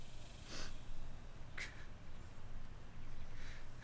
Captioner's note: sniffs